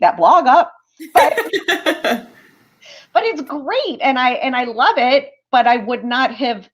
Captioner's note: laughter